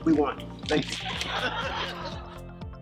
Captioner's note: laughter